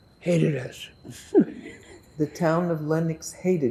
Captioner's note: laughing